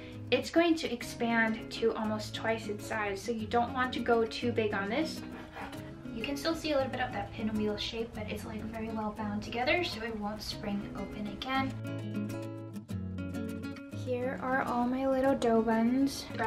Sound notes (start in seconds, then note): 5.2 cutting; 12.3 calm guitar music